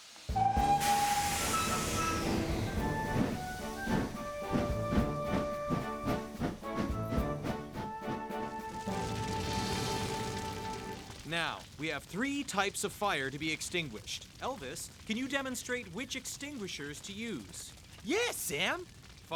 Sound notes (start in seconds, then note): 0.3 whistle Blasts; 2.4 train Engine Chugging; 9.1 fire Crackles